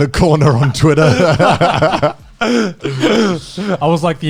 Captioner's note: all laugh